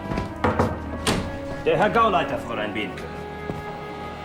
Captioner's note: knock on door